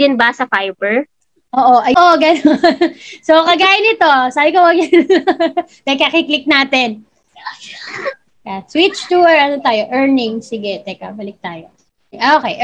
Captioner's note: laughs